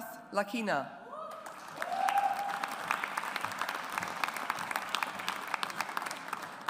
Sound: audience applauds

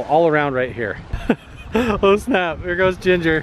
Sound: laughs

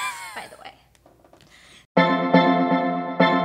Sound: laughs

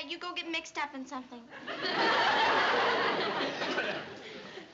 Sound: laughter

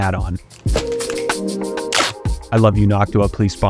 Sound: sound of stuff falling and duct tape ripping open

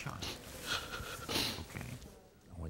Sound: crying and sniffling

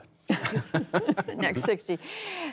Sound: laughter

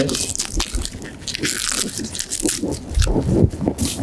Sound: kale tearing

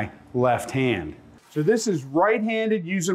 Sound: whooshing

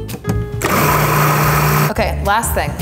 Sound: blender whirs

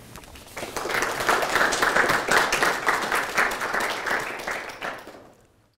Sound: audience applauding

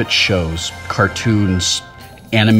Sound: none

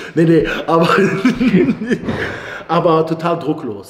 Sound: laughter

